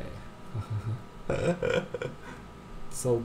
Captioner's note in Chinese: 笑聲